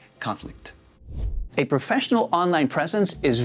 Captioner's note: air whooshing